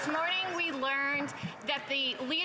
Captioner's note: some Applause